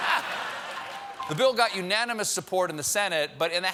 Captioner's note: laughter; applause